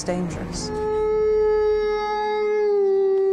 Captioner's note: howling